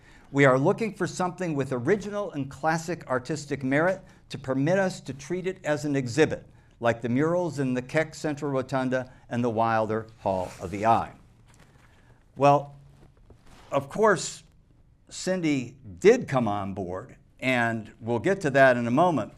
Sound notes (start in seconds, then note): none